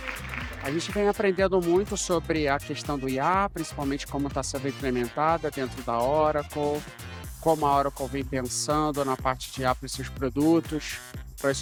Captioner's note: speaking foreign language